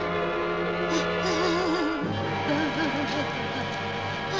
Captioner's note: Emiko whimpering